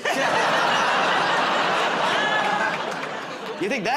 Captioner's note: laughter